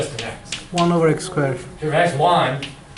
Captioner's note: voiceover